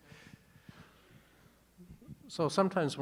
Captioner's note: attendees chuckling softly